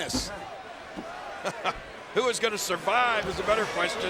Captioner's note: laugh